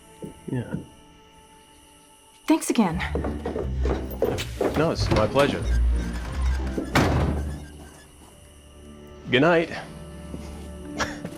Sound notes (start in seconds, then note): 6.3 door slams; 11.0 laughs